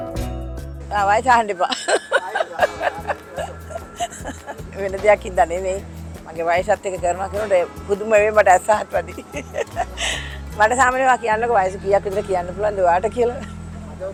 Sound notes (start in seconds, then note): 1.5 laughing; 8.8 laughing